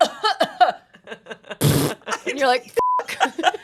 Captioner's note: mimics fart; coughs; beep; everyone laughs